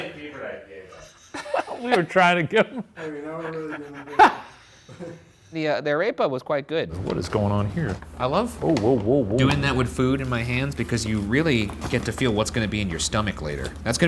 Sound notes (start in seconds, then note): 0.9 laughing